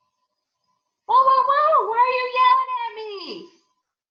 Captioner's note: shouts